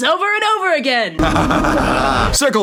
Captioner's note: more evil laughter